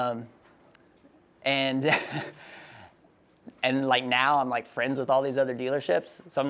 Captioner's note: laughs